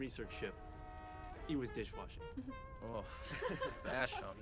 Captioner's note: group laughs